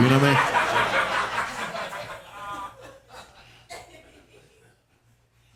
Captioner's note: audience laughing